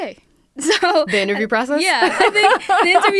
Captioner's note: laughter